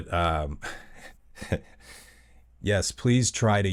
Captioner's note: laugh